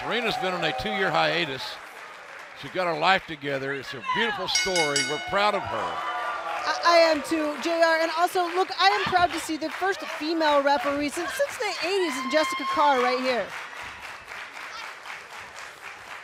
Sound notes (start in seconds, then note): 0.0 cheers and applause; 6.9 bell ringing